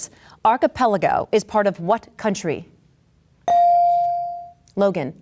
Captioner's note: bell dings